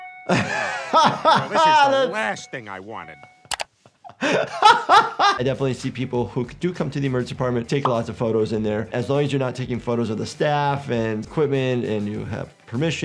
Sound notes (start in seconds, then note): 4.0 laughs